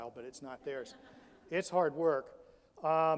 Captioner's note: audience laughs